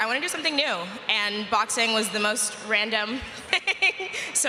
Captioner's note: laughter